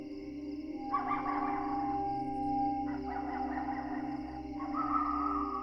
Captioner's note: coyotes yipping